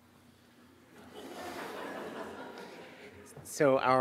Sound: audience laughing

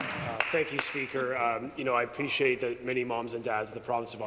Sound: applause

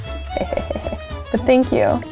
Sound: chuckles

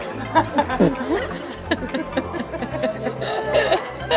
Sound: laughter

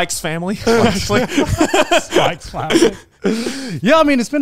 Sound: all laughing

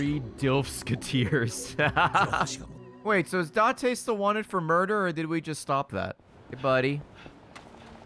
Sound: laughs

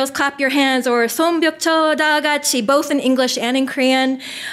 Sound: foreign language

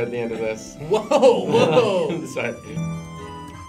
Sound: laughs

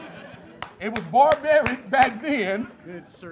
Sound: laughter and clapping

